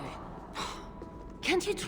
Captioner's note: scoff